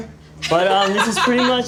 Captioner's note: laughter